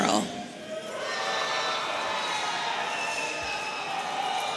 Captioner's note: audience cheering